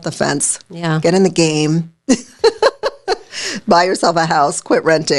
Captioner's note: laughing